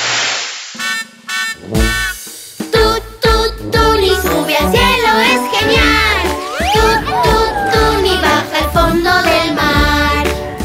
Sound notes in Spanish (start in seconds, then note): 0.6 Sonido de bocina